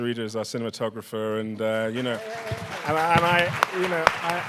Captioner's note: audience applauding